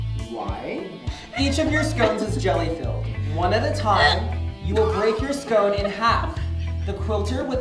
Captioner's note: gagging sound